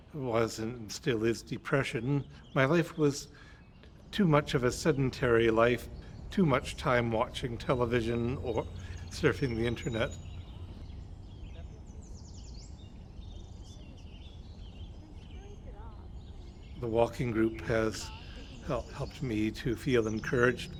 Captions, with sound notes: was and still is depression. My life was too much of a sedentary life. Too much time watching television, or surfing the internet. (Birds chirping) The walking group has helped me to feel encouraged